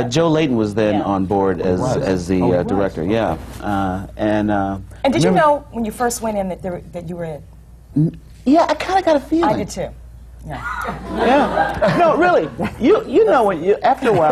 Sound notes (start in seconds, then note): 10.8 laughter